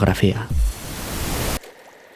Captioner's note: interference